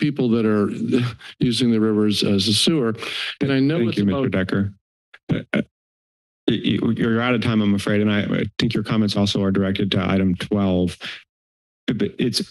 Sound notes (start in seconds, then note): 3.0 inhales